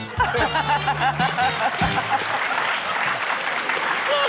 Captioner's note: quirky theme music; laughter, applause